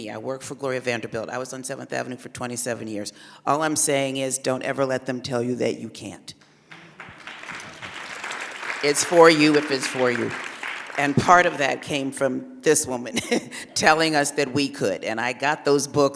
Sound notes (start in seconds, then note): 6.7 applause; 13.1 laughs